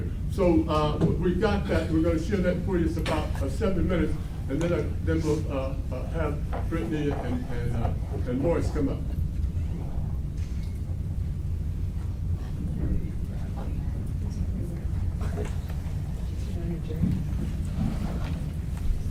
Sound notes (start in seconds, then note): 12.9 murmuring